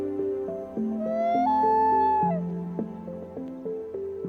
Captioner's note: loon calling